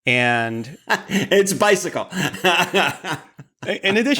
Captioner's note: laughs